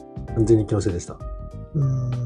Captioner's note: laughs